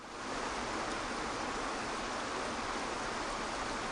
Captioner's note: water rushing